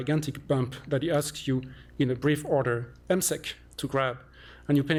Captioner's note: non-english